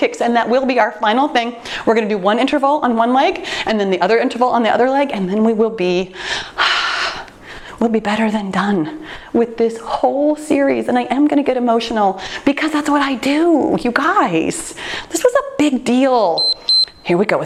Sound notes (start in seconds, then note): 6.6 sighs; 16.3 timer beeps